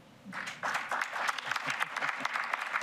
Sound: applause

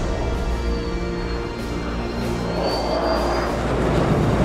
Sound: jet engine roaring

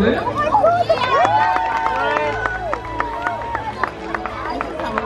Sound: crowd applauding

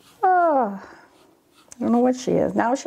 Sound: sighs

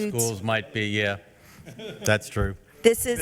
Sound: member laughs

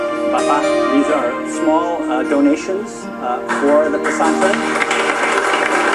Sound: non-english; applause

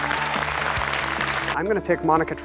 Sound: applause

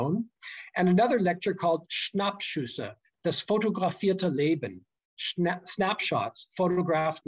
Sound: german

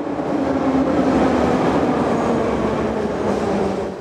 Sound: train whooshing

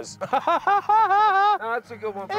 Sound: laughing

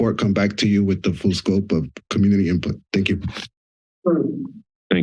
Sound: sniffs

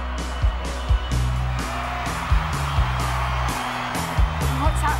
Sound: drums; cheering

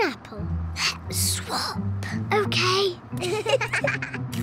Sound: whispering; both giggle

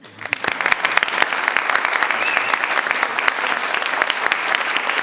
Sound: audience applauds

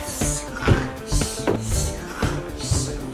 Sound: snores

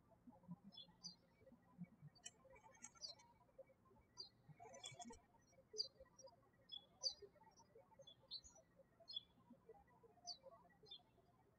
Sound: birds chirping

